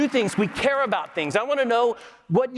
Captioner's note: applause